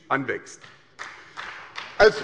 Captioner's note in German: Beifall bei der SPD